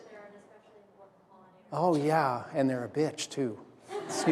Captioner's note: laughter